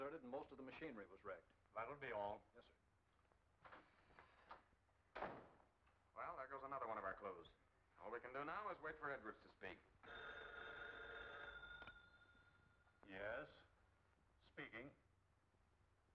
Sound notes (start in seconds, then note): 10.0 telephone ringing